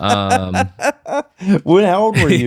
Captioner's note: laughter